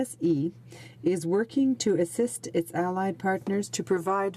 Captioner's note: speaking in french